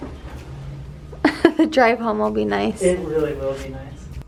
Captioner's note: chuckles